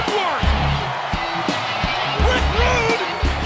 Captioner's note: audience cheers